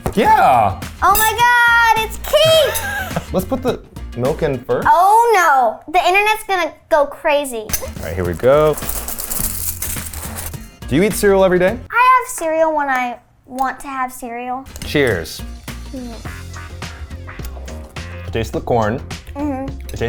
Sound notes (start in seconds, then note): 7.8 cereal rustling; 15.6 upbeat electronic music